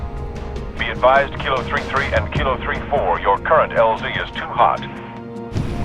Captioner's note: radio